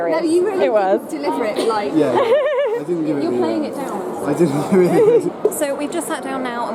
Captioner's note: laughs